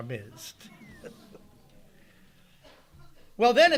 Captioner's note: audience laughing lightly